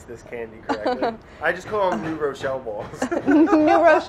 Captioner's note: laughing